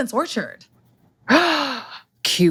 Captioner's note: gasp